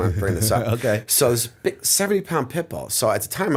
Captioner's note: chuckle